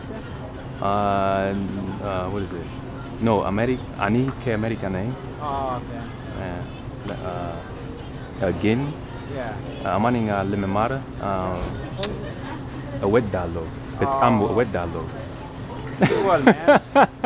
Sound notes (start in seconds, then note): 1.0 Amharic; 9.1 amharic